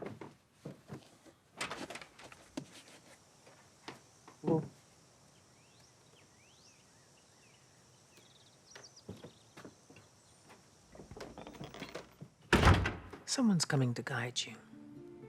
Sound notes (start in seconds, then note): 5.3 birds singing; 12.5 door clicking; 15.0 mysterious music